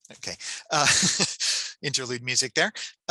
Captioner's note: laughs